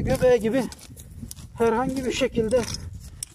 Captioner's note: the sound the hoe makes in the ground